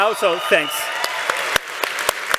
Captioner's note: applause